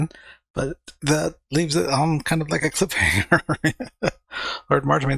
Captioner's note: chuckling